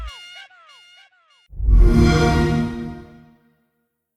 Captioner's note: xbox sound